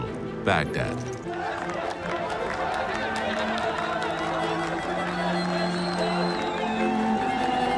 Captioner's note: chanting and cheering